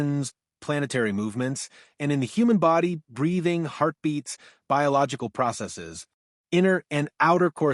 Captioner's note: breathing, heartbeats, biological processes